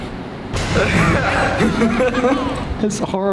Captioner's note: laughter